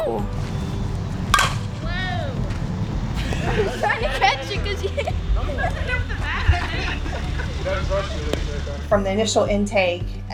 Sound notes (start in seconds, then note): 0.1 laughing